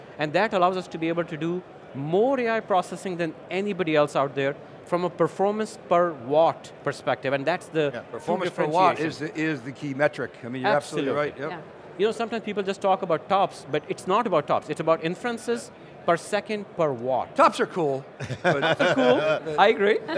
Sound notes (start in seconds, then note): 18.2 chuckling